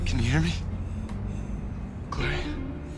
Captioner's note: shallow breathing